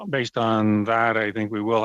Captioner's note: speaking French